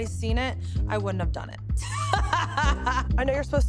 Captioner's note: laughs